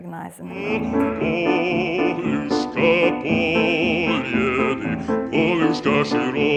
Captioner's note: foreign language